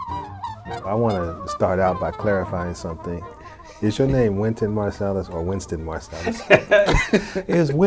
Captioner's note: laughs